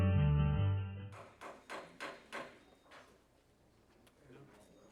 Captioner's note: gavel banging